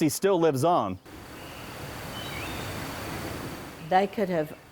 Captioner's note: birds chirping